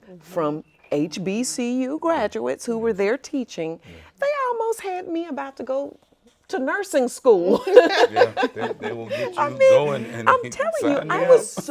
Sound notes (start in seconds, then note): 7.4 laughs